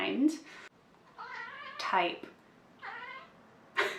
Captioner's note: more background meows